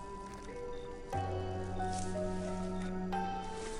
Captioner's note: sounds of weeds being pulled